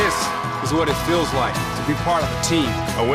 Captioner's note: cheering